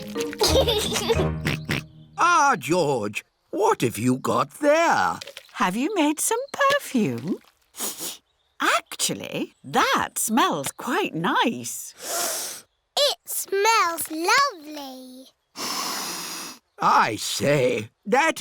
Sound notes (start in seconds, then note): 1.9 snorts; 7.7 sniffs; 12.2 sniffs